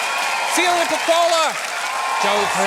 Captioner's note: cheering, applause